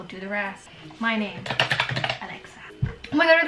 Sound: typing

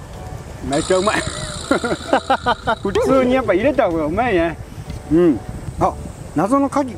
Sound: haha

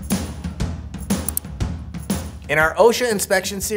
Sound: mouse clicking

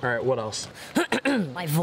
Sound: clears throat

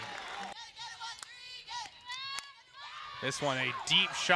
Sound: team chanting

